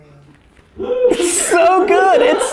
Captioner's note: yelling